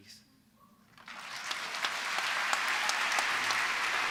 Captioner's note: applause